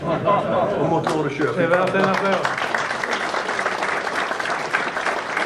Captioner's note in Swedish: Applåd